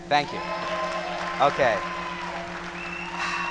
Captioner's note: applause